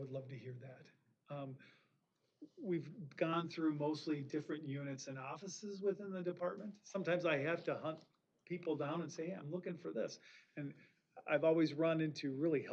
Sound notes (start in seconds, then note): none